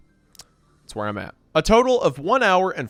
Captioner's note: clicks tongue